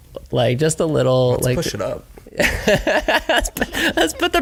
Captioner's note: laughs